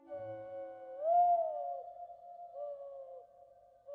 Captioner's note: bird call